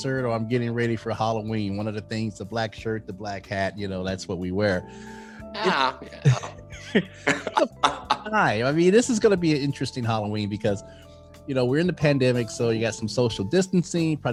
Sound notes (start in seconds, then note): 6.8 laughing